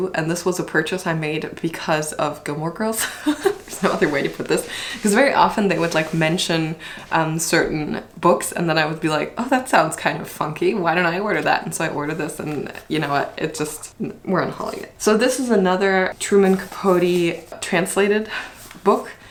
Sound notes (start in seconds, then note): 3.0 laughs